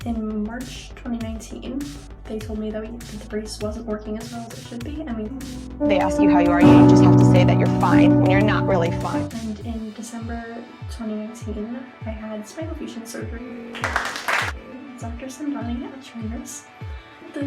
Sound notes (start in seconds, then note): 5.8 meme sounds; 13.7 clapping